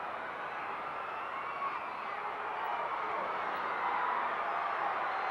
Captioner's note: audience cheering continues